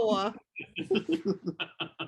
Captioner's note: laughing